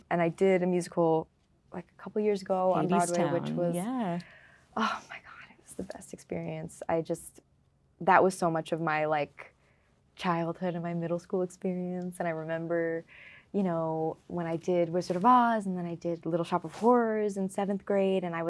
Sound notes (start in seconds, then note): none